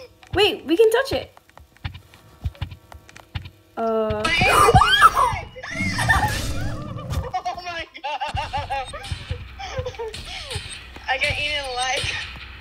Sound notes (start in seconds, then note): 4.4 screams